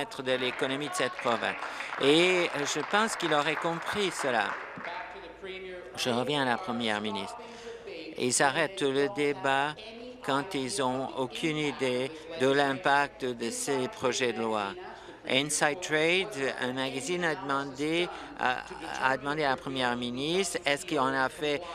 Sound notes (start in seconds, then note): 4.6 applause